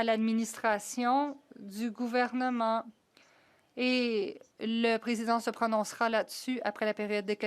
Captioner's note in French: voix de l'interprète